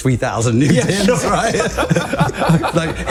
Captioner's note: laughter